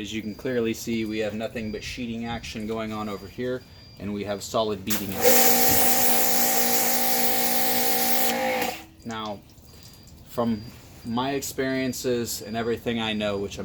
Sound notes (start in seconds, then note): 4.9 motor whirring; 4.9 water spraying